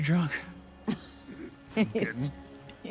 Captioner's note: Sandy laughing